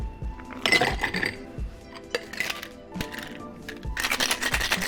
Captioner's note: ice clattering; ice rattling